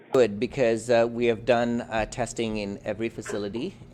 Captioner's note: voice muffled